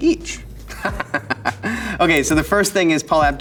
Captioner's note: Elijah laughs